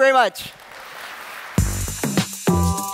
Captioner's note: applause